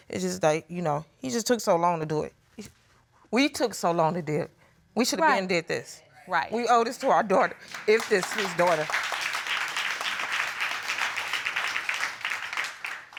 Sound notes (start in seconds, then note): 7.6 audience applauding